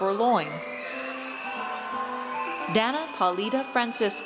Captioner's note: audience cheers